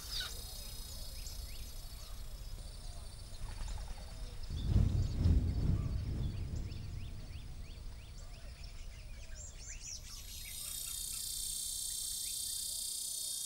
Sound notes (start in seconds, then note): 0.0 continuous harsh buzz of cicadas